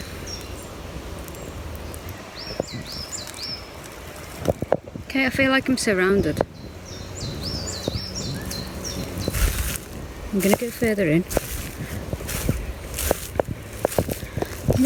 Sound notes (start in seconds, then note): 0.2 birds chirping; 6.7 birds chirping; 9.4 leaves rustling; 11.5 leaves rustling